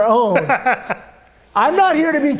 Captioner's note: laughs